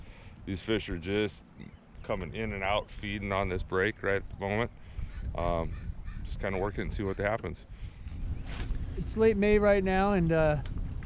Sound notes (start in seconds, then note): 8.2 rod whipping; 8.5 reel spinning